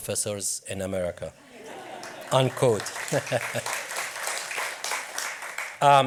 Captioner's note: audience laughs and applauds; laughs